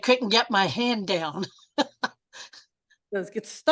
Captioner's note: chuckles